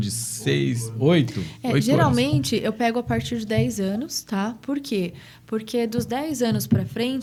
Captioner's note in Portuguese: limpando a garganta